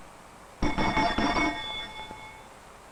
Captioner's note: bell ringing